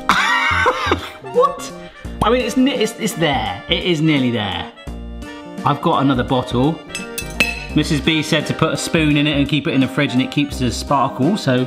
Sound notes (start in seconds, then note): 0.1 laughs confusedly; 6.8 spoon clinks